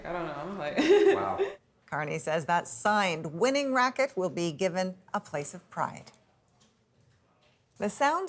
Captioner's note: laughter